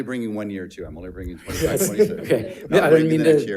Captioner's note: board Members laughing